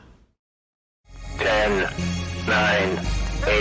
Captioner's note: computer Generated Voice